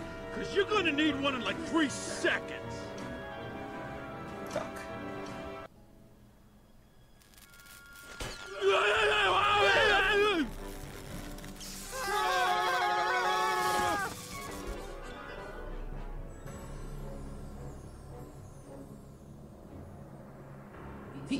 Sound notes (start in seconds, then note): 8.1 screaming